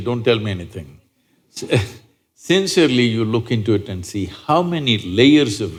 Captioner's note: laughs